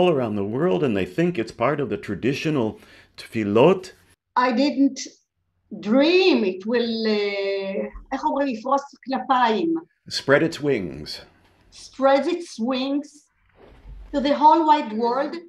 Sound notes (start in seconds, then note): 7.2 speaks Hebrew